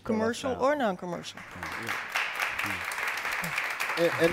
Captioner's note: applause